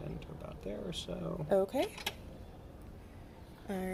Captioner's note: clamp clicks